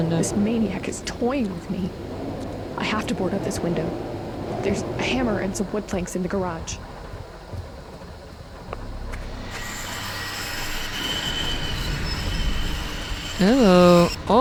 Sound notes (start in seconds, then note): 10.8 knives along window glass